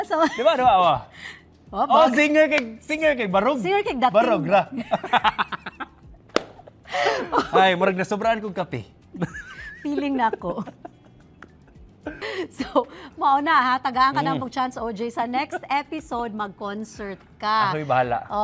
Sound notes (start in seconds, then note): 4.7 both laugh; 9.2 chuckles; 9.2 laughs